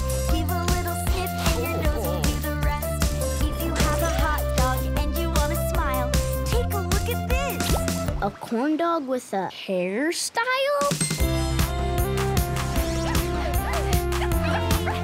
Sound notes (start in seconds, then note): 13.0 barking